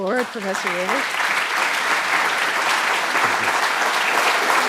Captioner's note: applause